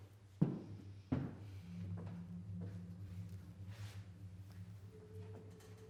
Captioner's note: faint drone